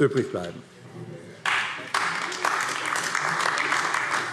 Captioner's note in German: Beifall AfD